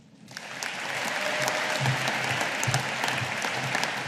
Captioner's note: audience applauding